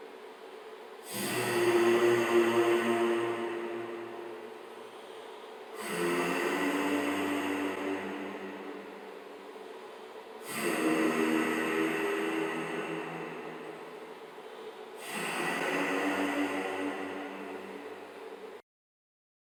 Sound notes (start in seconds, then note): 0.0 humming sound; 8.7 humming sound